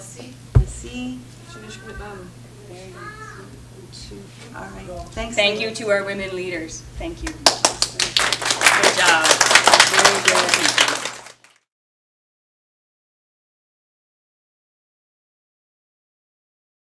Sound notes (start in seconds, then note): 7.2 clapping